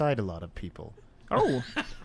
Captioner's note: laughter